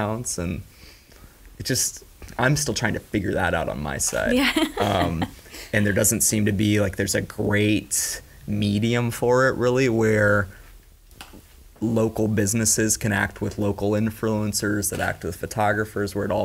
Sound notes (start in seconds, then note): 4.3 laughing